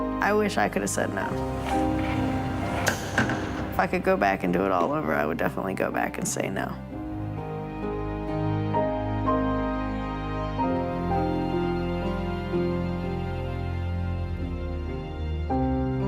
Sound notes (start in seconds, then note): 2.8 door chucks; 7.1 gentle music